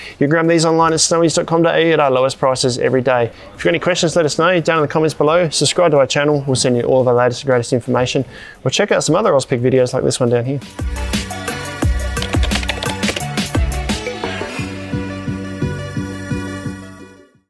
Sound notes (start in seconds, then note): 10.7 upbeat music; 12.0 keys typing